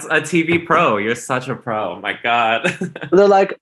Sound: laughs

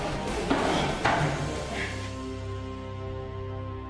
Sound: heavy breathing

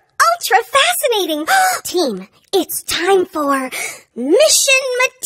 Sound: gasp

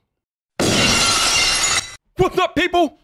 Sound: glass shatters

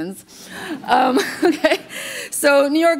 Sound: muted laughter

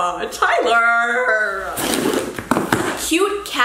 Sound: tearing

